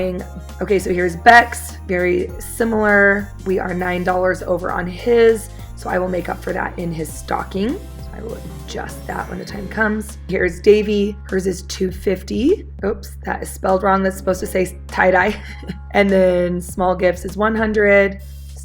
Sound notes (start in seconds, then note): 15.2 laughs